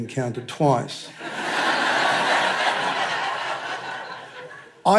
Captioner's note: laughter